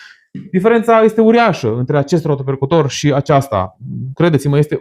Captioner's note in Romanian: voce dreasă